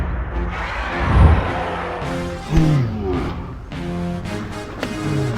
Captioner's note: riverbeast roars